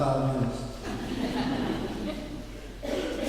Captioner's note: laughing